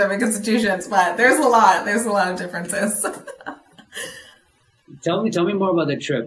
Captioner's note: laughs